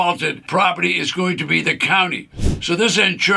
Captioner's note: screen whooshes